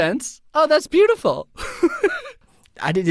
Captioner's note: laughing